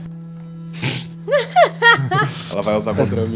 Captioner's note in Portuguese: risada